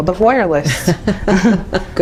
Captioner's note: laughs